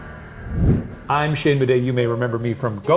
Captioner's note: screen whooshing